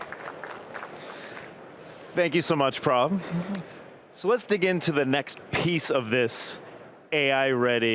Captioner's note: applause